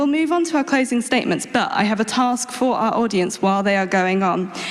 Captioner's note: none